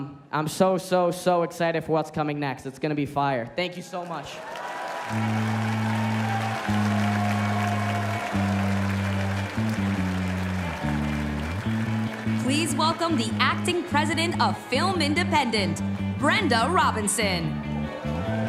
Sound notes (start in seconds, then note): 12.1 cheers and applause